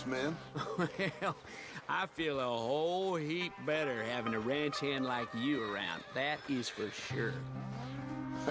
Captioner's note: chuckles